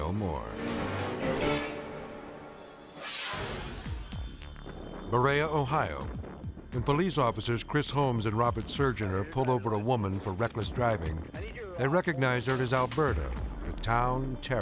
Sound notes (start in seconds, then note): 0.0 dramatic music; 2.4 video swooshing